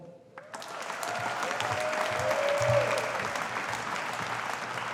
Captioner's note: audience applauding